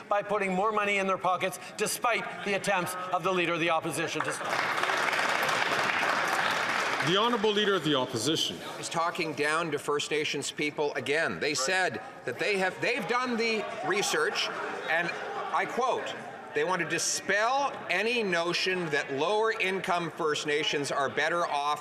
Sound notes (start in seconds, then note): 9.2 applause